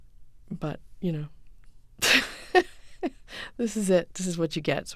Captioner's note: soundbite of laughter